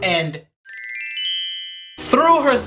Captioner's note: chimes tinkling